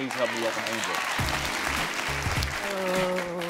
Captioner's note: audience applauding; light airy music